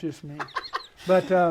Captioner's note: laughs